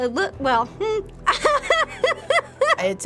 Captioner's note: bursts into laughter